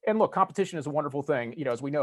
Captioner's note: none